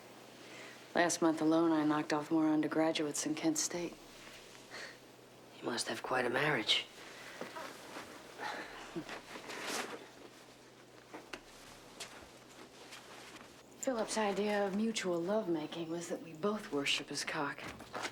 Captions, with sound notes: Last month alone, I knocked off more undergraduates than Kent State. - You must have quite a marriage. (chuckles) - Philip's idea of mutual love-making was that we both worship his cock.